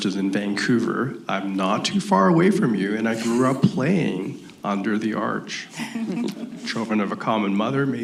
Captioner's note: laughter